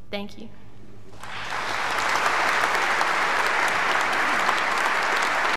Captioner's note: audience applauding